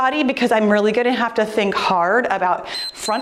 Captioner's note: timer beeps